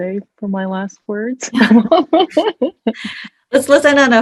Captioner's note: all laughing